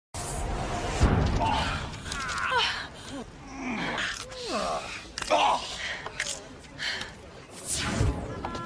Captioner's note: grunting, gasping